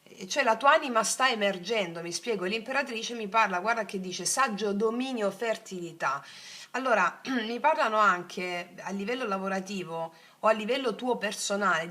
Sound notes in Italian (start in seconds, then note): 7.2 schiarire la voce